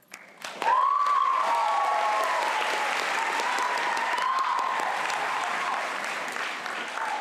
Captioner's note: applause